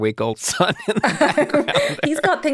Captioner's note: laughs